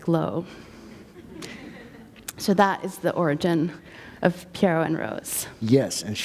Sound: laughter

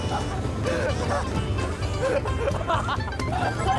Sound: suffering from leg cramp & coughing from water in his mouth

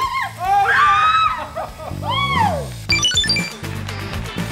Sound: shouting; upbeat music

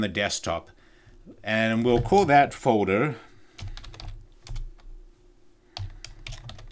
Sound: keyboard clicking

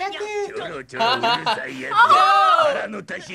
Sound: both laugh

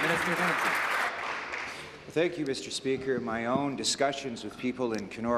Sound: applause

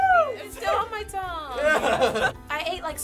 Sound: chuckles

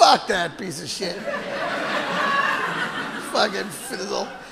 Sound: audience laughing

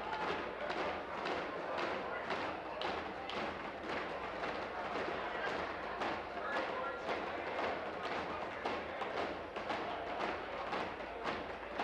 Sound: tapping on desks

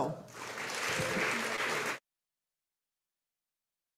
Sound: audience applauding

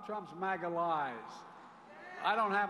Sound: crowd shouts "No!"

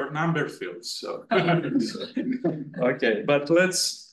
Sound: chuckling

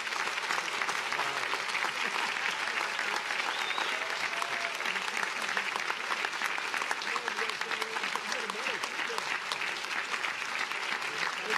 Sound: applause

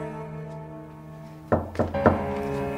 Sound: door knocking

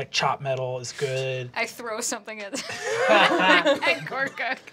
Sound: group laughing

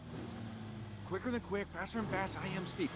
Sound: cars passing

